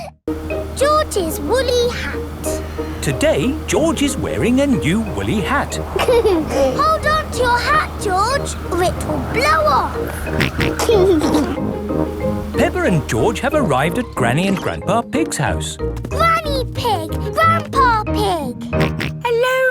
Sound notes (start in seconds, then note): 0.0 kids laughing; 0.0 snorts; 5.4 giggles; 10.4 snorts and giggles; 18.7 snorts